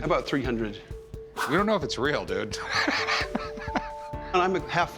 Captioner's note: laughs